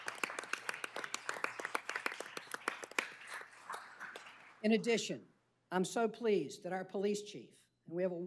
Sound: applause

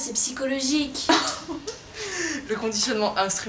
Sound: laughs

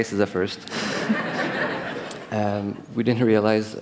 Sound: laughter

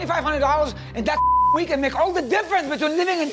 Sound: beeping

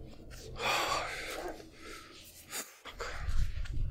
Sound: he exhales

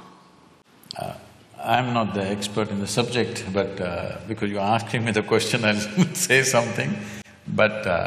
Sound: laughs

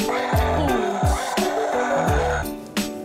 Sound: violently growling

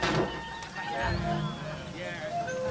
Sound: fire wooshing

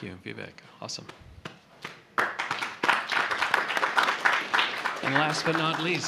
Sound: applause

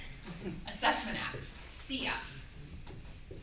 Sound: audience laughter

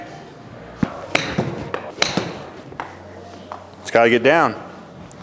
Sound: ball thuds

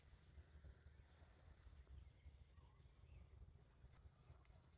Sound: bird song

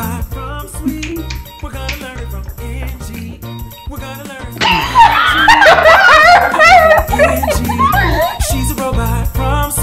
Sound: laughing

